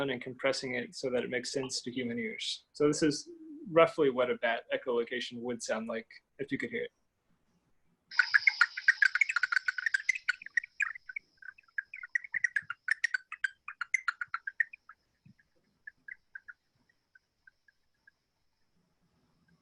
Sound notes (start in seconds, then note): 8.5 clicking and chirping